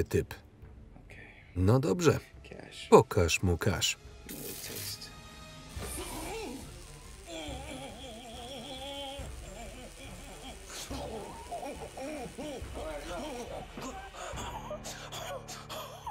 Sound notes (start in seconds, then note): 4.9 sizzling; 6.5 grunting